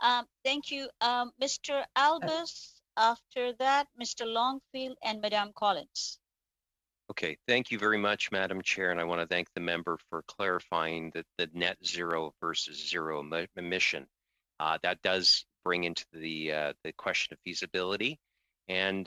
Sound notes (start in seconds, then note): 4.6 speaking French